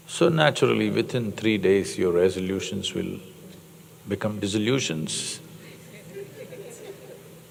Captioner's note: laughter